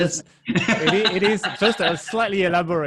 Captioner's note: laughing